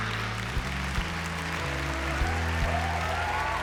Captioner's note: applause